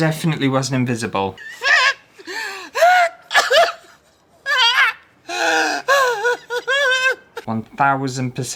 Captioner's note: crying